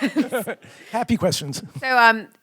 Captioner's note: laughs